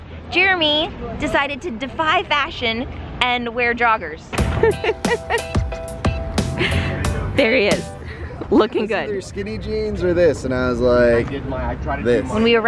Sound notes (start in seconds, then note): 4.4 upbeat electronic music; 4.4 laughs